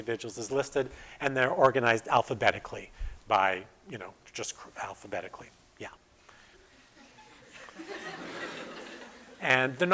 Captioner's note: audience: Laughter